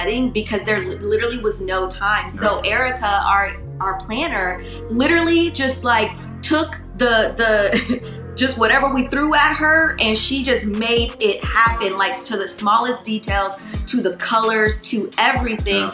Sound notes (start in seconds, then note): 6.4 laughs